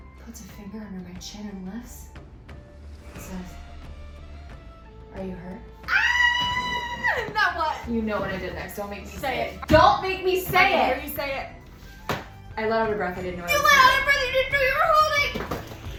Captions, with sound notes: puts a finger under my chin and lifts. And says... "Are you hurt?" [realm-shattering shriek] And then what? You know what I did next. Don't make me say it. Say it. Don't make me say it. I need to hear you say it. I let out a breath I didn't know I was -- You let out a breath you didn't know you were holding!